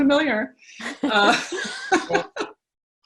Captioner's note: laughs